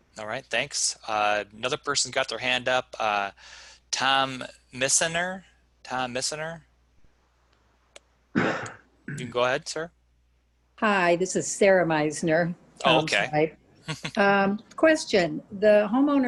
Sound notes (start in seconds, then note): 8.4 coughs and clears throat; 13.8 laughing